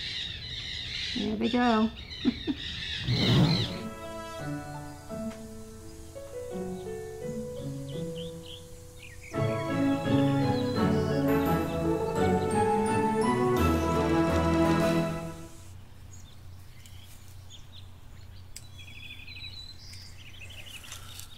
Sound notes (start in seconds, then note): 2.0 parrots squawking; 17.4 birds singing